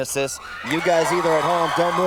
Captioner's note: audience applauds